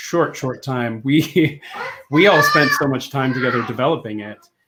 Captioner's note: laughs